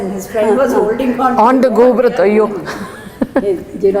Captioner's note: in Tamil